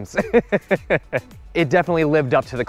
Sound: chuckles

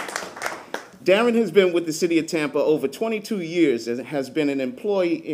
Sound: applause

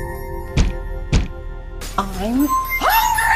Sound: banging

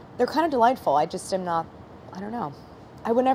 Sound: none

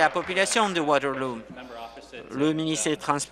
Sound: applause

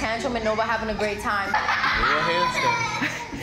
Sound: laughing

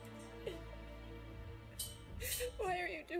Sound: crying

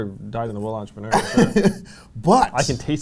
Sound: laughs

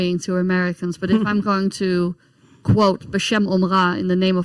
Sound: speaks in foreign language

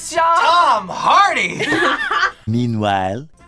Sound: laughs

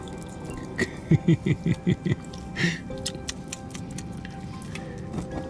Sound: tongue clicks; laughter

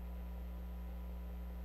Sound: none

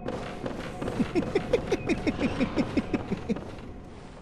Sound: Patches laughing

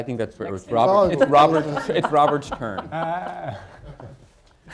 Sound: laughter

